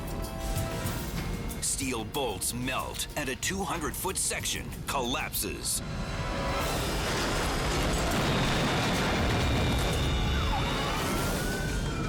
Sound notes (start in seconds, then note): 7.0 highway crashing